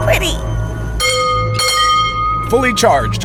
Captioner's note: the ready bell